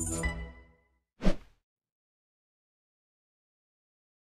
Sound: air whooshing

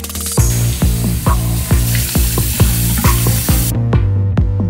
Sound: water splashes

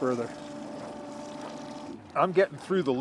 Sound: winch motor running

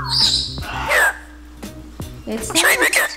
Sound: birds squawking

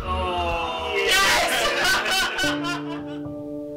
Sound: loud cheer playing video games

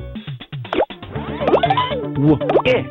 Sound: reversing sounds; disco music

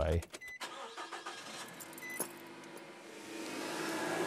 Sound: car engine revving

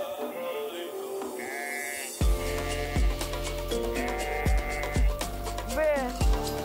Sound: sheep bleating; upbeat music

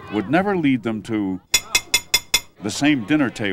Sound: metal fork striking a plate

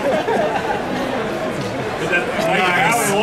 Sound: audience laughing

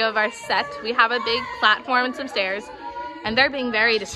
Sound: chaos in background

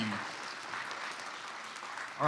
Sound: clapping

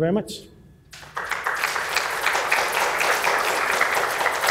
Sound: applause

